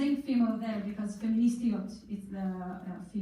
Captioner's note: in foreign language